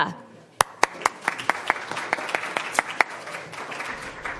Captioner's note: applause